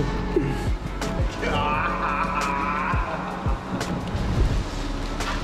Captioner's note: some stranger engine noises